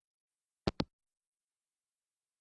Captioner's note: hangup